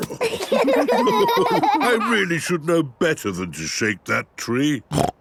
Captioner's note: laughter; snorting